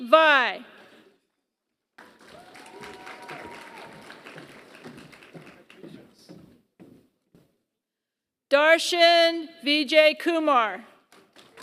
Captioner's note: applause; applause